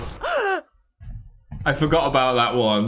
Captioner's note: gasps